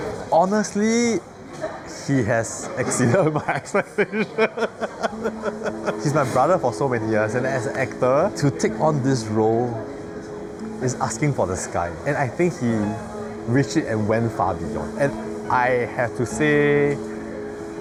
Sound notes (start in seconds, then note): 4.8 laughs